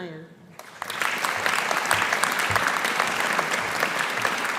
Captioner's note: audience applauding